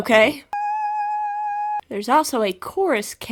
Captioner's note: screams of unimaginable horrors persist